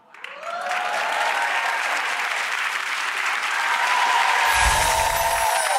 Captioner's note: audience cheering and clapping